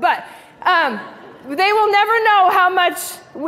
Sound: laughing

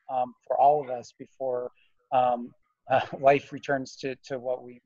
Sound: chuckles

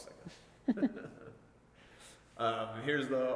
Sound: laughing

